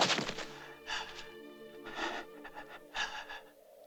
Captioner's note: breathing heavily